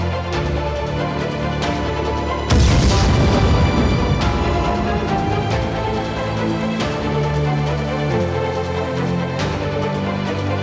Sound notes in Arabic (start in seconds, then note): 2.5 صوت انفجار